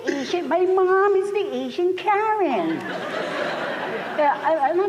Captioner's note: laughter